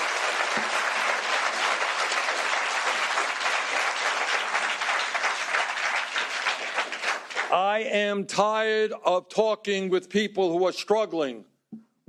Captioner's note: applause